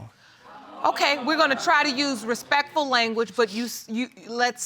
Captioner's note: audience gasps